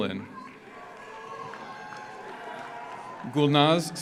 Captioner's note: audience cheers; audience applauds